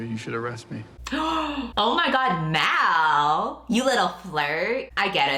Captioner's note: gasps